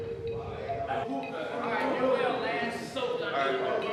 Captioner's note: all chattering